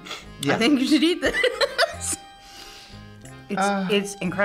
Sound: laughs

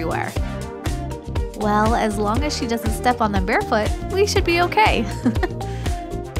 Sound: chuckle

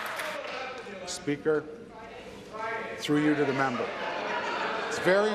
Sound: applause

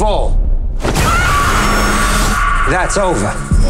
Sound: woman screaming

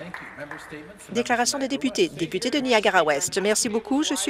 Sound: some applause

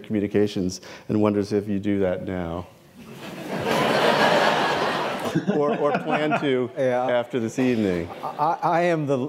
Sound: laughter

